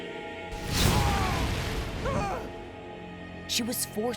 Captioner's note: screaming